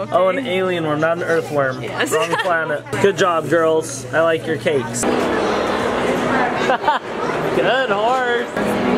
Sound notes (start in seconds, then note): 6.4 laughs